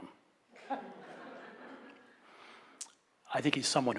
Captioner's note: laughs